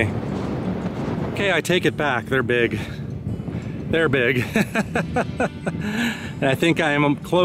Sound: laughter

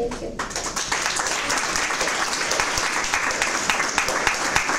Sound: applause

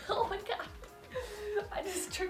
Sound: laughing

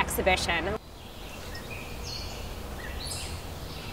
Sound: birds chirping

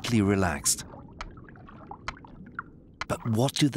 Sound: seal clicking regularly

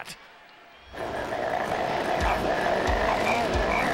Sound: car growling

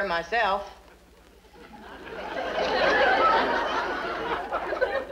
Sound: audience laughs

